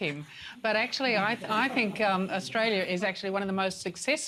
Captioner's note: laughter